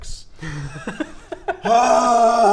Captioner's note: delighted giggles